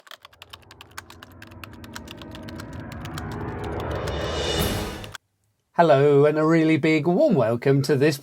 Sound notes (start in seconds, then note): 0.0 typewriter sounds